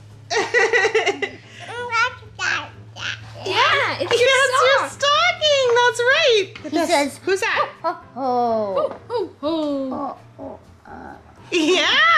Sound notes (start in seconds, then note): 0.3 laughing; 2.6 speaking gibberish; 7.1 children mimicking Santa